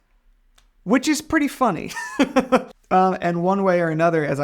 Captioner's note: laughs